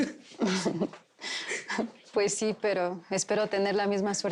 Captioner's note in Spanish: Risas